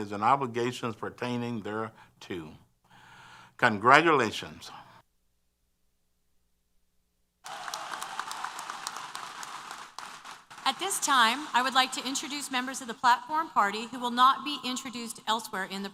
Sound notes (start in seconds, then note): 7.4 applause & Cheers